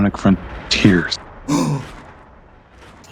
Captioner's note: gasps